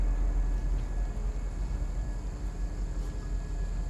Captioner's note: crickets chirping